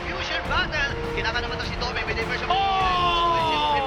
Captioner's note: crowd erupts in cheers